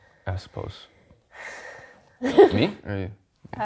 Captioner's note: laughs